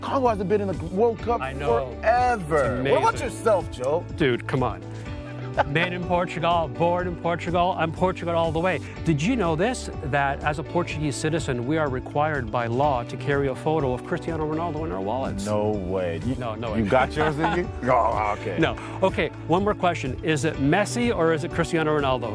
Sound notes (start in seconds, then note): 16.8 laughs